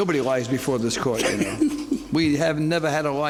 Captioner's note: laughs